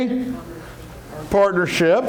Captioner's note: murmurs